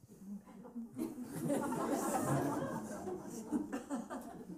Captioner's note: laughter